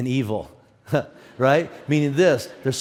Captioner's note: audience laughs